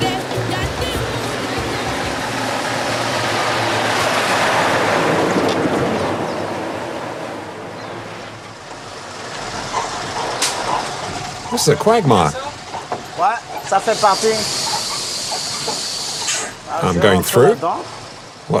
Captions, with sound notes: This is a quagmire. [foreign language] I'm going through.